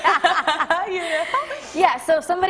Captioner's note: laughter